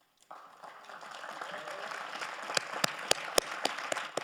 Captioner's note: audience applauds